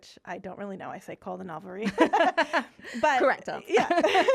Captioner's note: laughing